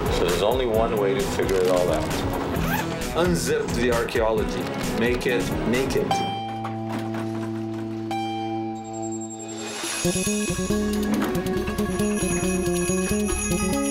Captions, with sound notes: So there's only one way to figure it all out, unzip the archeology, make it naked. (elevator dinging) (Middle Eastern music)